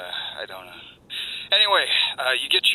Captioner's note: inhale